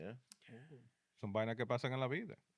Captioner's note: speaking In Foreign Language